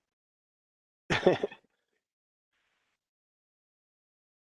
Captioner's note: laughs